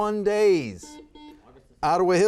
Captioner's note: buzzer buzzes